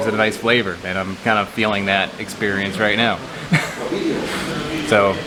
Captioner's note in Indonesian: tertawa